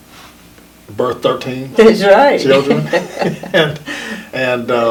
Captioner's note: laughs